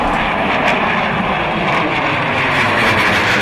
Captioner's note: missiles launching